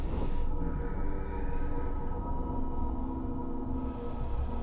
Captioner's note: ghoul breathes heavily